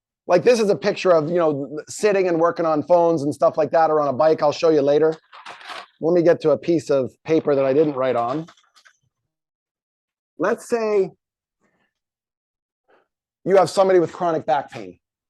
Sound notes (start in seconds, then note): 5.1 paper rustles